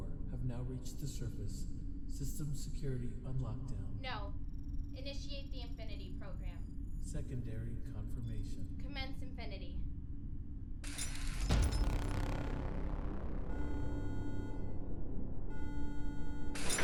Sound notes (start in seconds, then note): 0.0 digital Male Voice; 7.2 digital Male Voice; 10.8 alarm blaring; 10.9 machines whir